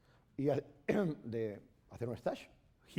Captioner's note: speaking spanish